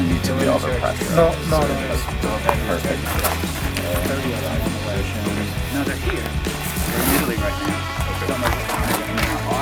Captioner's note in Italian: Applauso